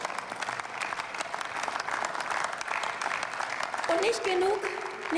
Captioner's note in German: Beifall